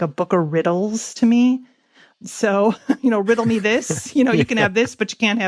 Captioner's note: both laugh